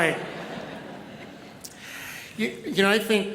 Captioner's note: audience laughs